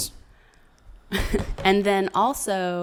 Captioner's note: laughs